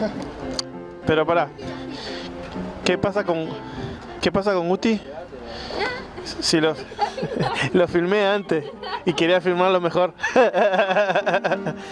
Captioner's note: laughs